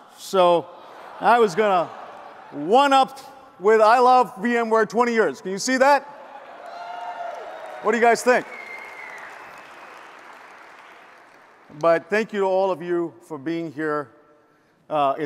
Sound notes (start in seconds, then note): 6.4 audience applauds and cheers